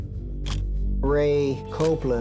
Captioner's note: camera shutter click